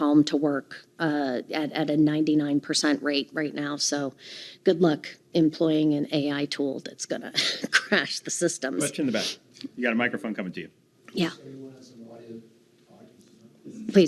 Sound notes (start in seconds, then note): 7.3 chuckling